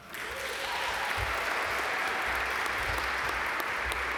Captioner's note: audience applaud